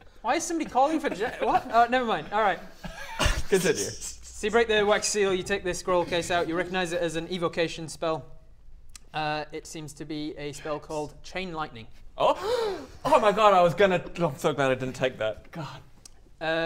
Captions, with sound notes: why is someone calling for J- what? Oh never mind, alright Continue so you break the wax seal, you take the scroll case out you recognise it as an evocation spell it seems to be a - spell called chain lightning - [whisper] James Oh! *Gasp!* Oh my god I was gonna, I'm so glad I didn't take that, god